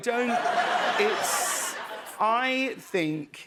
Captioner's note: laughter